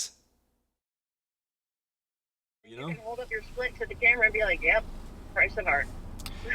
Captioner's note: phone call